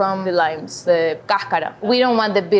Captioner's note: speaking foreign language